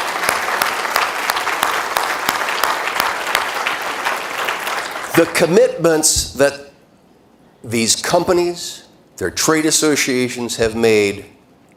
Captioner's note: applause